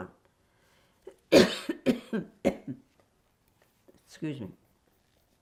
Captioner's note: coughing